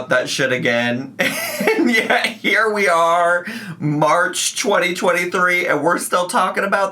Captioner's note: laughs